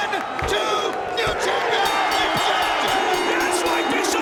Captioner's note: bell rings